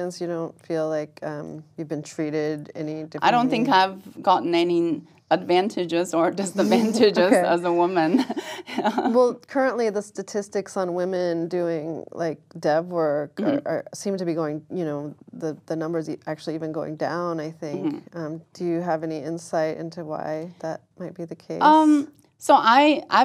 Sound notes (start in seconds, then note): 8.0 laugh